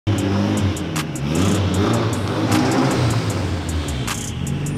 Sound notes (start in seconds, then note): 0.0 car engine roaring